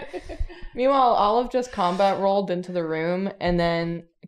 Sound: laughter

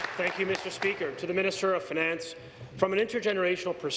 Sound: some Applause

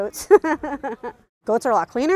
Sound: laughing

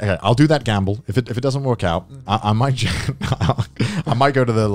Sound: laughs

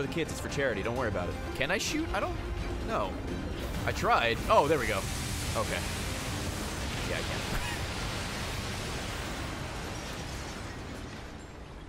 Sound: laughs

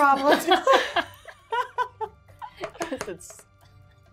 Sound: gamers laughing

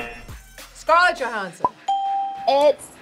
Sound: buzzer rings; bell rings

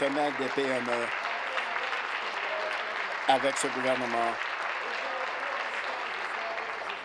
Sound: applause

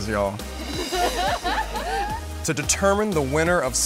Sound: laughter

